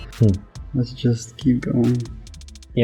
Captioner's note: chuckles